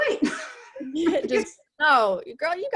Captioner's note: chuckles